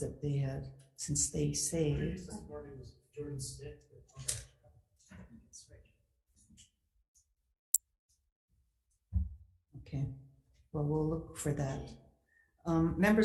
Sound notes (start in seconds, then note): 3.2 people talking